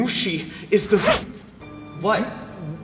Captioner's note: mouth zips